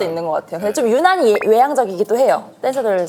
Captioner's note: power "EEEE" among dancers